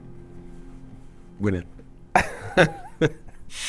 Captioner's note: laughs